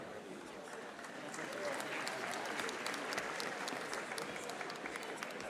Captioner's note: audience applauding